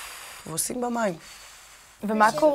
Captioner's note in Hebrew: נשיפה